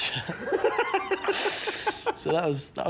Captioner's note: grint & shephard laugh